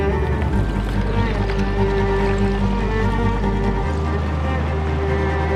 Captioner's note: ice clinking in water